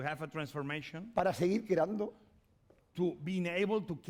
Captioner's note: speaking spanish